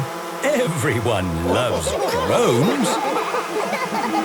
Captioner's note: laughter